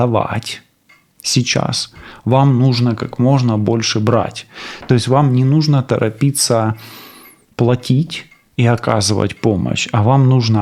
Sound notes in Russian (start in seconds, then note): 7.2 фыркает